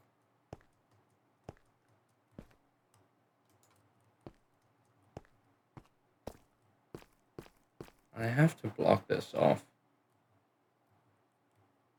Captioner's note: sigh